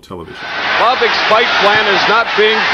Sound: audience cheering

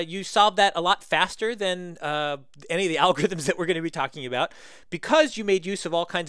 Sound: laugh

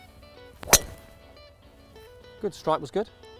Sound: golf Ball being Hit

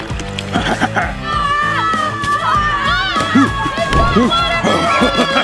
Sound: laughs menacingly; kids yelling

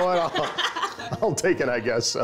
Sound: laughter

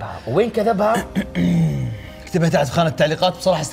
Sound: clears throat

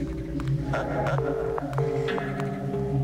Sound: ringing tone

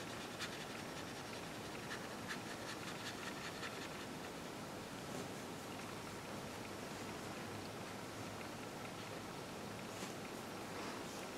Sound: brush sweeping noises

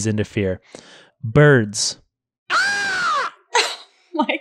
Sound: mimics crow cawing

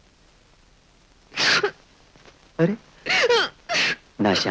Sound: crying

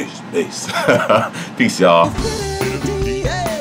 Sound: laughing

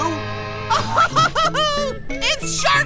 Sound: laughing

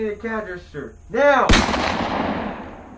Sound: gunshot

